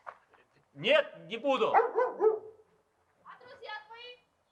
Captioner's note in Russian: гавкает собака